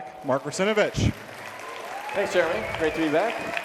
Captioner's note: people applauding